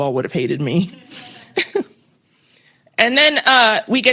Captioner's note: laughter